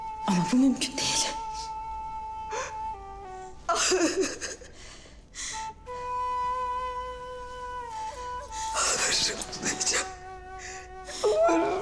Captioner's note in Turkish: Ağlama Sesleri